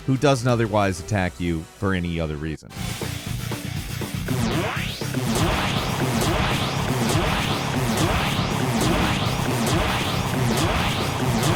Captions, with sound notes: who doesn't otherwise attack you for any other reason. (heavy metal music) (lasers beaming)